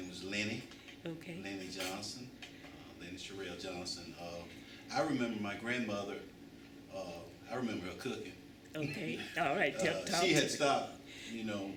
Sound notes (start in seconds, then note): 8.1 laughter